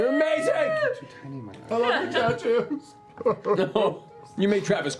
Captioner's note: sobs